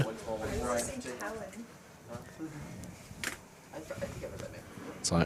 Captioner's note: chatter